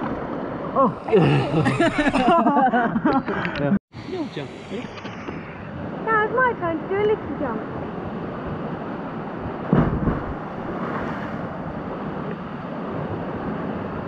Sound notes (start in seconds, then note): 1.0 laughing; 9.6 splash; 11.6 running water